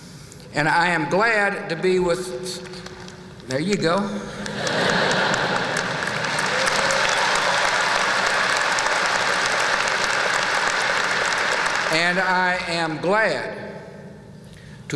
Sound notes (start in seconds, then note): 4.3 laughter; 4.4 light applause; 6.3 applause